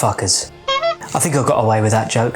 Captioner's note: beeping